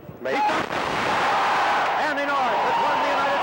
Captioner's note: crowd cheers